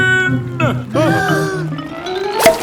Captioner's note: breathing in